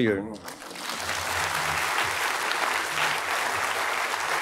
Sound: applause

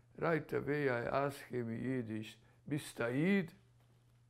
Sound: yiddish

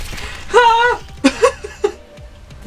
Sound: laughs nervously

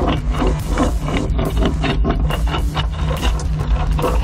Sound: bone rattles

